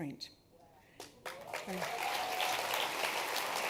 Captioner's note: applause